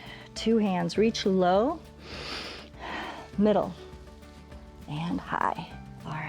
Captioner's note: inhales and exhales